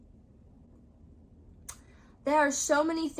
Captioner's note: frustrating wand tapping